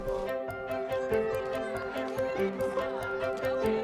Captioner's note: cheering